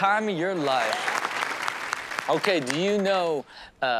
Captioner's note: audience applauds